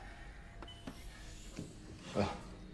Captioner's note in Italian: suoni intermittenti regolari